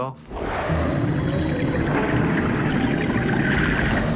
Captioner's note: rumbling and bubbling